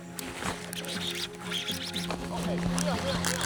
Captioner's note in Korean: 릴링소리